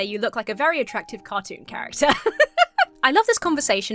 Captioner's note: laughs